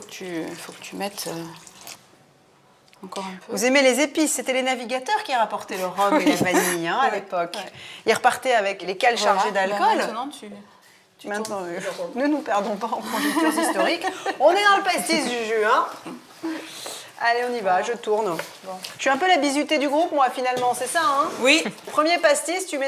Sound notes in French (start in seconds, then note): 6.9 rires